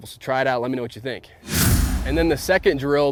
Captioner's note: excited whooshing